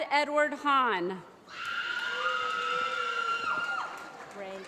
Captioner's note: applause